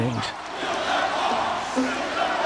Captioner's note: crowd